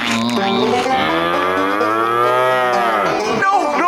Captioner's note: mooing